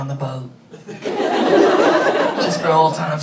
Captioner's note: audience laughing